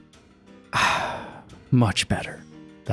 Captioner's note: satisfied "ahhhh"